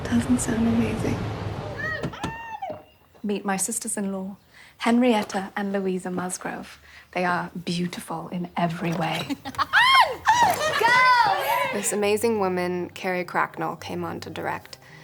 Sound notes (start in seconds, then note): 1.7 girls screaming; 1.9 door banging; 9.5 Henrietta and Louisa yelling